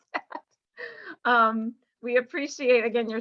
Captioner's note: laughter